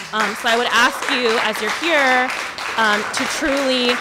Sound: applause

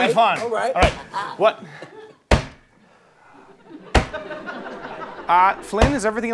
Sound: periodic whacking

